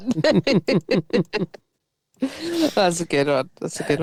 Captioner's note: laughs